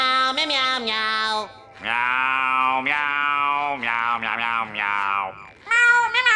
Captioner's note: meowing